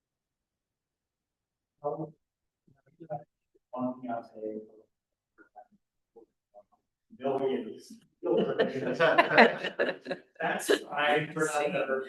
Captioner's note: laughter